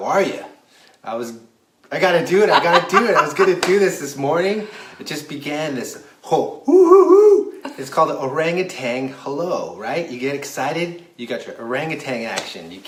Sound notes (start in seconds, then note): 2.3 laughs; 6.8 monkey sounds